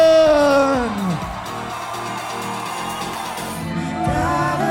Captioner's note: crowd cheering; gentle music